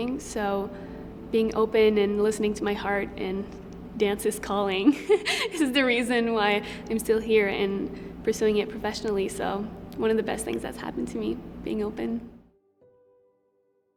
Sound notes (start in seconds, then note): 4.9 chuckles